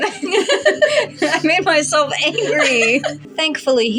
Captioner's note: chuckle; laugh